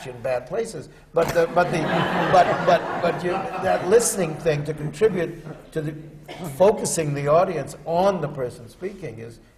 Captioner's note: laughter